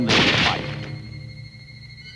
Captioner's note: gun shot